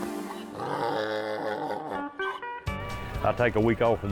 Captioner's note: braying Mule